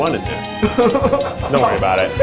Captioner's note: laughs